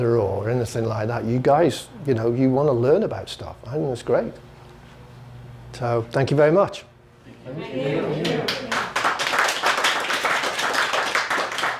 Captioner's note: clapping